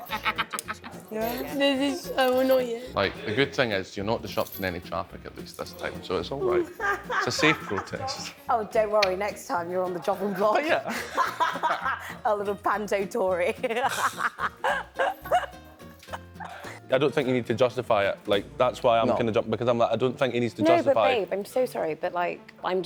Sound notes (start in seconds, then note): 13.6 laughs